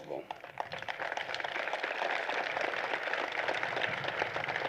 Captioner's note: applause